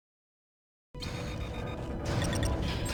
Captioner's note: dramatic music; beeping